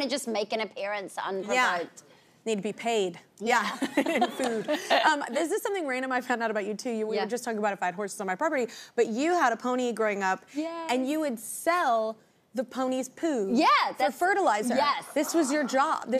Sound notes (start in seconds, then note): 3.6 laughs